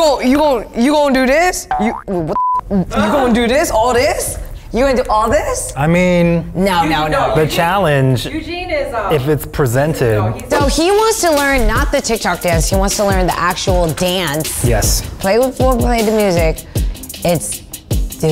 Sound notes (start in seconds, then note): 2.3 beep